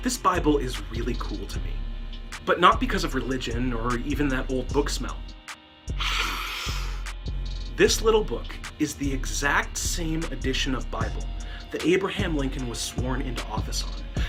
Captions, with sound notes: This Bible is really cool to me, but not because of religion or even the old book smell. [Sniff] This little book is the same exact edition of Bible that Abraham Lincoln was sworn into office on.